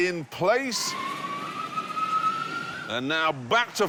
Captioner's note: high-pitched whine